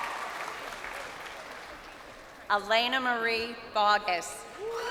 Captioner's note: crowd cheering